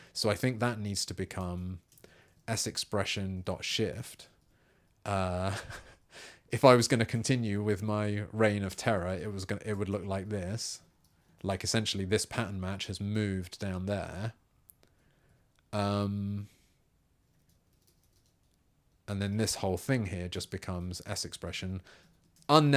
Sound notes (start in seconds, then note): 16.3 silence